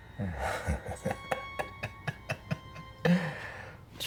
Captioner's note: Aladdin laughs